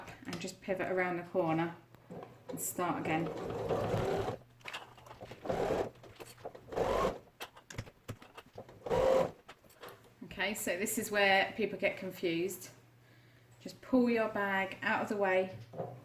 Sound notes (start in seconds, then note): 3.2 sound of sewing machine